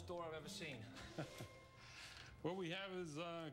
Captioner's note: chuckles